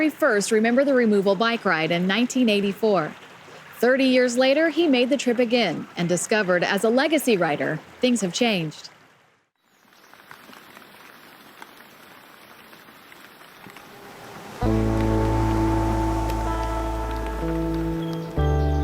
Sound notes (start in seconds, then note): 9.6 rain drops hitting leaves; 13.6 truck roars past